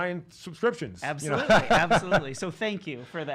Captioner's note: laughing